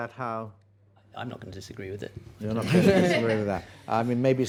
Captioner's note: laughter